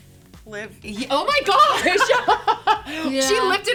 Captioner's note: laughs